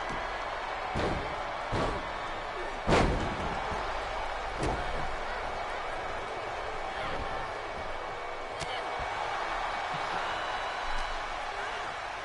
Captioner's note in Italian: Applauso